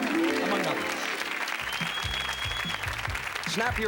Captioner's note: applause